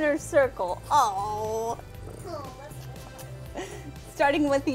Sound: exclaims

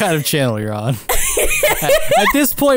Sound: laughing

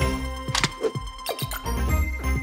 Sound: beeping

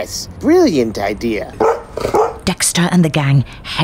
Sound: two barks

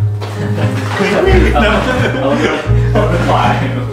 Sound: both laughing

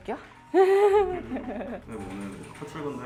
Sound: only laughs

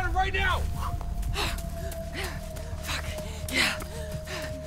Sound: Sheila panting

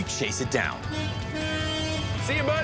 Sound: car honking

